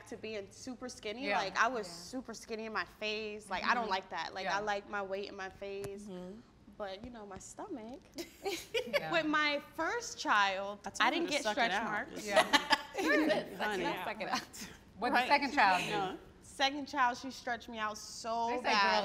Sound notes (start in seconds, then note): 8.3 all laugh; 12.7 laughs